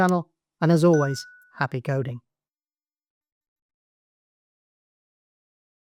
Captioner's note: bell chimes